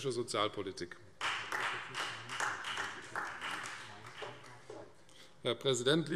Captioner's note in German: Vereinzelter Beifall Freie Demokraten, AfD und DIE LINKE